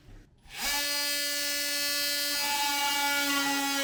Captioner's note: tool whirs